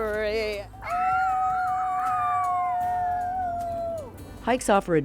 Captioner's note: all howling